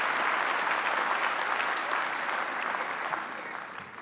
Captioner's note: applause